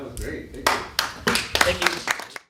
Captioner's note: applause